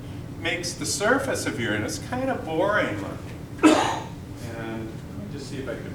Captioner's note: cough